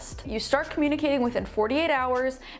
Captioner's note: none